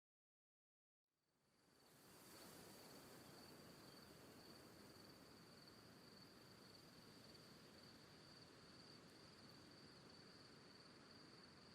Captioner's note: wind and crickets